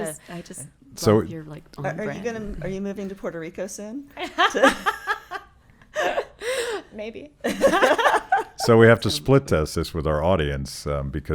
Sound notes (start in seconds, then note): 7.4 laughing